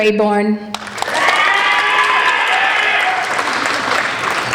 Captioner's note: applauding